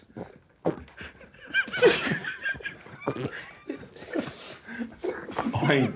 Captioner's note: gargling continues; group quietly laughing